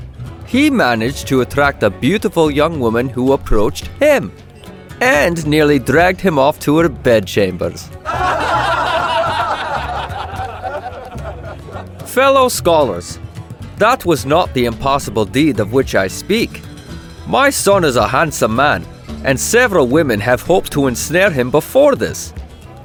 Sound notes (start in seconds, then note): 8.0 good natured laughing